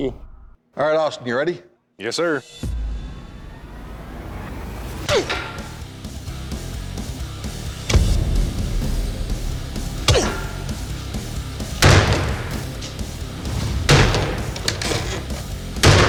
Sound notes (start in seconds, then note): 2.5 suspenseful music; 4.7 grunting; 7.6 heavy metal music; 11.1 banging